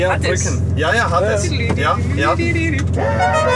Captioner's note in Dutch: imiteert dixie horn